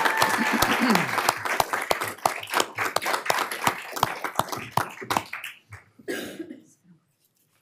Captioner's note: applause